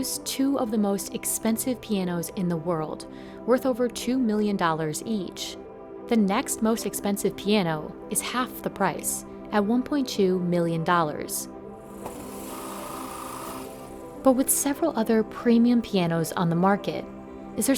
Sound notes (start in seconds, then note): 11.8 drills whirring